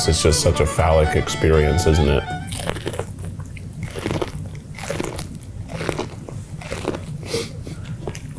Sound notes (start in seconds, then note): 2.4 crunching